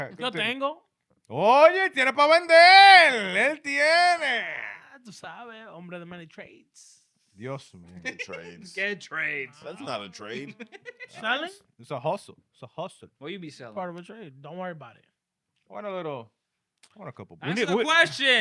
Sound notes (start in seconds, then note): 3.0 speaking In Foreign Language; 11.2 laughing